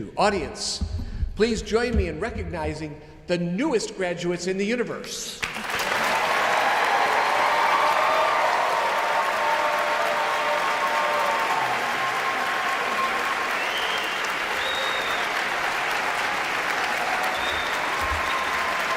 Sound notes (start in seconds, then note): 5.6 audience applauds; 5.6 audience cheers